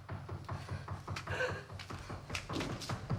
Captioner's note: knocking